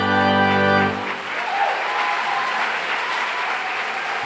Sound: audience applauds

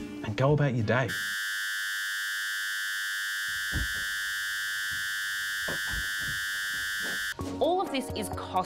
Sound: ear-piercing whine

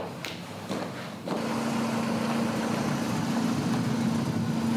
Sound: engine hums

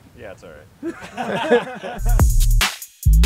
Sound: laughing; hip hop music

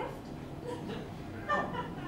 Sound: laughter

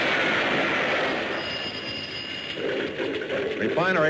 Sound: explosion booms; phone rings

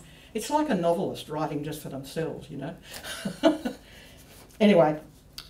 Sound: laughs

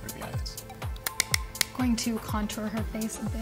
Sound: tapping

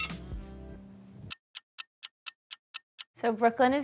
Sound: clock ticking

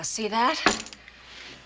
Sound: clunk

